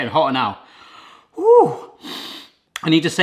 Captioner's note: sniffs